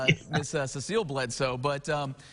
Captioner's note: laughing